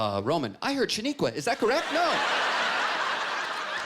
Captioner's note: laughter